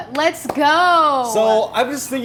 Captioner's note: claps repeatedly